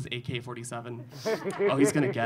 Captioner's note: audience laughing